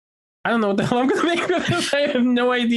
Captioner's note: laughing